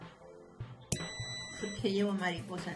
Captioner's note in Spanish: sonido: piiiiii